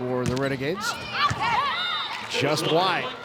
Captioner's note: ball thumping